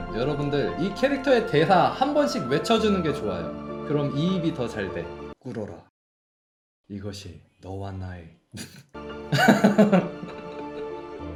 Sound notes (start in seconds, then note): 9.3 laughs